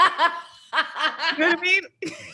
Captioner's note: laughs